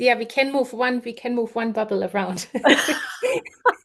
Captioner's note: laughs